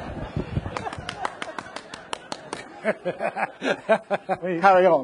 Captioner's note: audience laughing; hands clapping